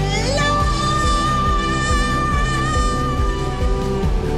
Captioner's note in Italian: una donna urla